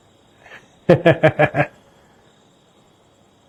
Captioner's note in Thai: เสียงหัวเราะ